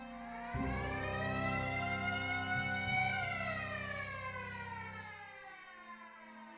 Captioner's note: sirens